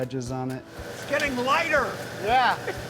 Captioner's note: saw whirring; laughs